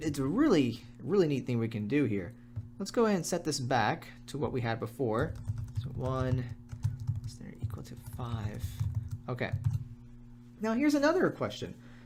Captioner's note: typing